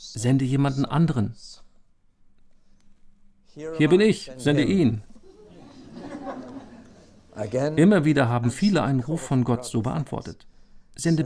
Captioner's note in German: Lachen